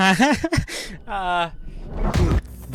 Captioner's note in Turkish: kahkaha